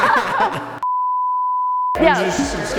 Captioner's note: both laugh; beep